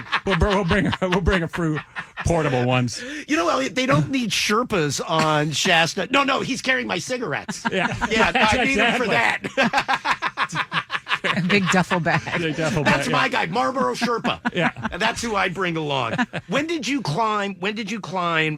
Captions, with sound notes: We'll bring a fruit, portable ones. You know, Elliot, they don't need Sherpas on Shasta. No, no, he's carrying my cigarettes. Yeah, that's exactly. Yeah, I'd need them for that. (laughing) Big duffel bag. Big duffel bag, yeah. That's my guy, Marlboro Sherpa. That's who I'd bring along. When did you climb? When did you climb?